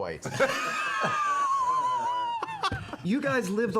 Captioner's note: laughter